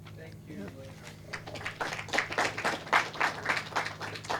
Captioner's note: clapping